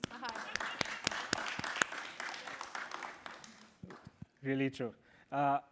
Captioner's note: applause